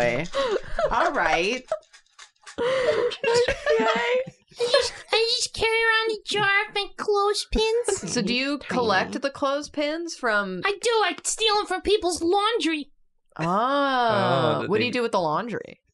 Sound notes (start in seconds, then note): 2.8 BIG inhale; 3.4 continue laughing